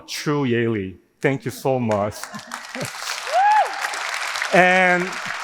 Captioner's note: audience laughing